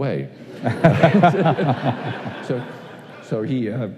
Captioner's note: laughter